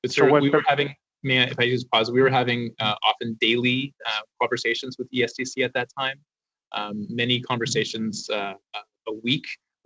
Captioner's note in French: voix de l'interprète